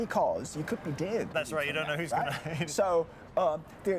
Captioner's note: laughs